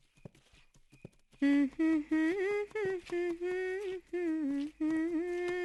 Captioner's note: humming